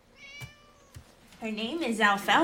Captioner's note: cat meows